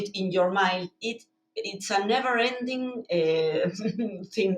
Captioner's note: chuckling